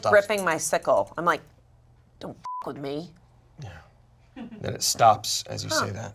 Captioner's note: beep